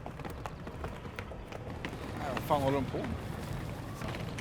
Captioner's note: running sounds